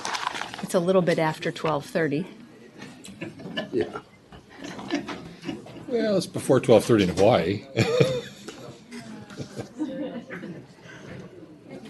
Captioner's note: laughter